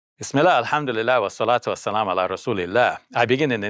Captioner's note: speaks in foreign language